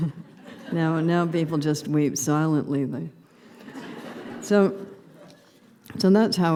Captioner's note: laughter